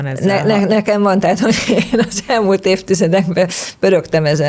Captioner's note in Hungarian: nevetés